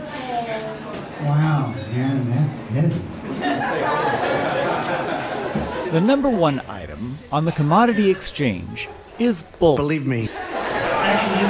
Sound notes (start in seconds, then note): 3.4 laughter